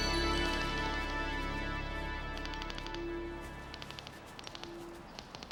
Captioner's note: detectors clicking